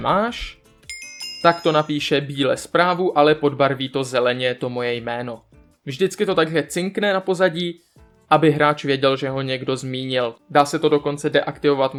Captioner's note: ringing